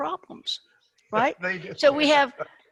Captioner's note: laughs